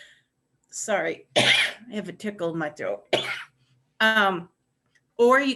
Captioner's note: coughing